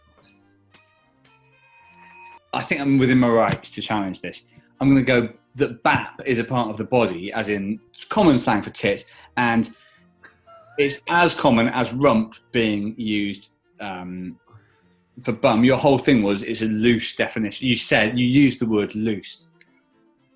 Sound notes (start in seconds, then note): 1.2 dings bell; 10.2 sniggering